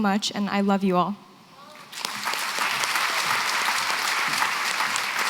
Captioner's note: applause